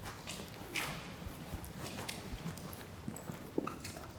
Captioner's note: footsteps